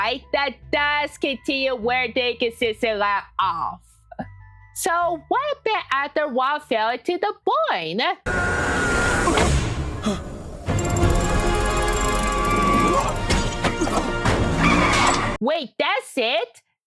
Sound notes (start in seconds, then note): 8.7 screaming; 10.0 breathing